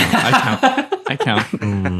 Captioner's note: laughing